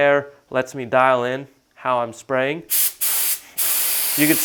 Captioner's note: spray sound